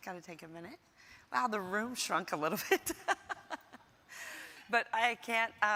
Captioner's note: laughs